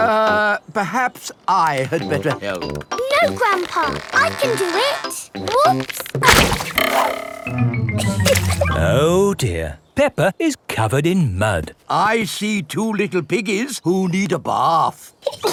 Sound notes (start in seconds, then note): 7.9 chuckles